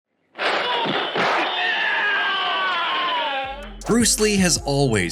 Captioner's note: action sounds, groaning